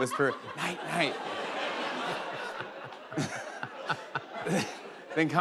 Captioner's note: laughter